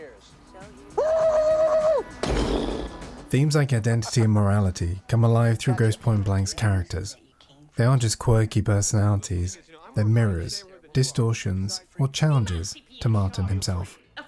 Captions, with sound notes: [screaming] [explosion noise] Themes like identity and morality come alive through Grosse Pointe Blanks characters. They aren't just quirky personalities, they're mirrors, distortions or challenges to Martin himself.